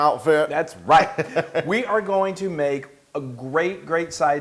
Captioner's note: laugh